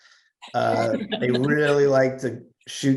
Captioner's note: laugh